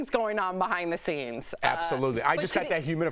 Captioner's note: laughter